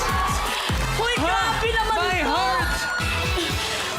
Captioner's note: sighs